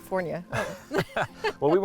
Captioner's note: both laugh